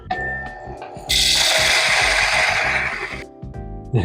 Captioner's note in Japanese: 豆を挽く音